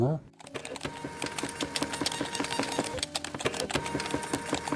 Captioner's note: machine humming